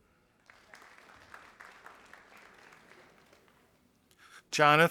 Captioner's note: audience applauding